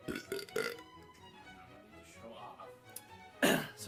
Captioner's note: deep burping